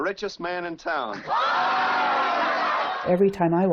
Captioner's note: cheering